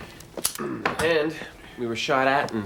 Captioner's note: clears throat